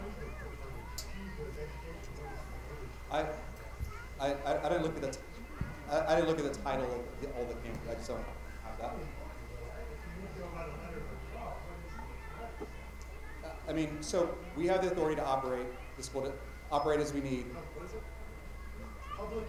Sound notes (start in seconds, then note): 0.2 attendee talking quietly; 10.2 attendee talking quietly